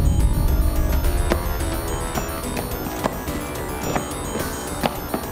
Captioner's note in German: Schritte